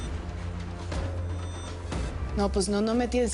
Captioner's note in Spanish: Bip